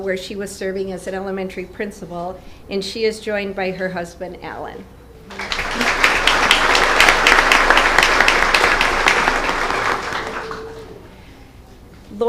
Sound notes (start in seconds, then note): 8.1 applause